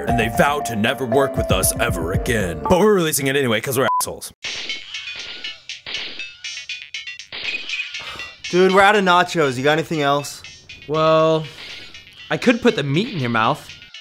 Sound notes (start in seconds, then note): 4.7 video game playing